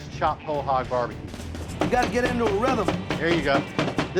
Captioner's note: chopping